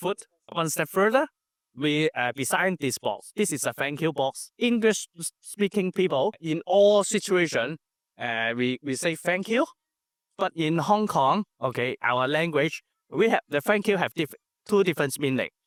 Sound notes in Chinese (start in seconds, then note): 12.3 粤语